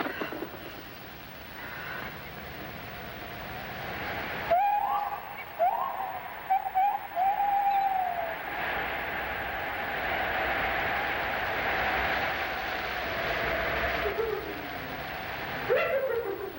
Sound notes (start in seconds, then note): 4.9 monkeys screeching; 9.9 wind blowing